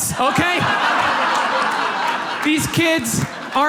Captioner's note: audience laughs